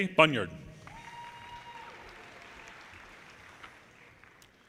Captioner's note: audience cheers